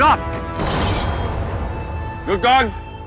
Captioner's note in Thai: เสียงกระบี่